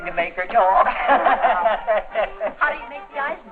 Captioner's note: all laughing